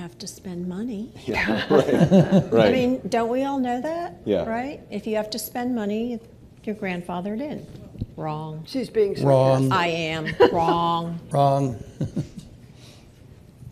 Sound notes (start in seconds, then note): 1.4 laughter